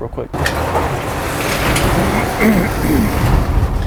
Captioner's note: gate rattling